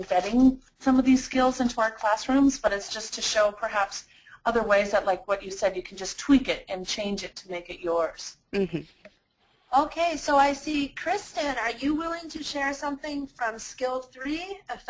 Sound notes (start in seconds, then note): 9.8 voiceover